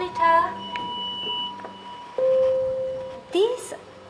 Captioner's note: machine beeping